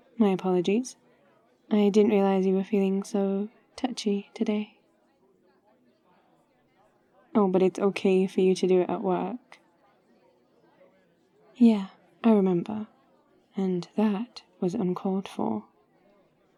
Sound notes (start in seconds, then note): none